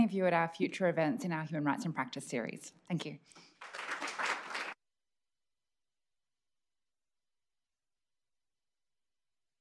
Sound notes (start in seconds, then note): 3.4 applause